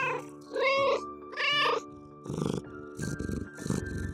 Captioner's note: meow